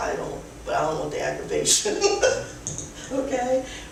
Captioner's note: laughs